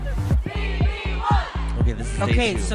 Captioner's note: crowd chanting